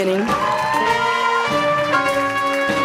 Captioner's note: applause